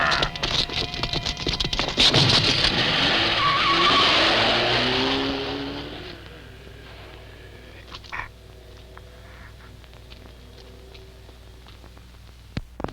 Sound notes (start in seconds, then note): 3.0 tires squealing